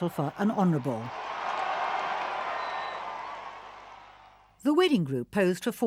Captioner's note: crowd cheering